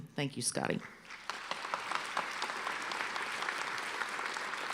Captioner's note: applause